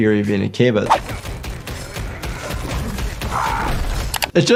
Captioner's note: punches thud; man grunts; keys clack